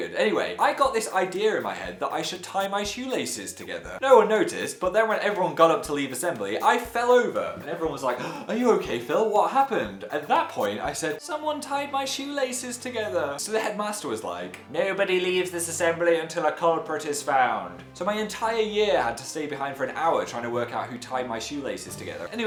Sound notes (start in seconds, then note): 8.2 gasps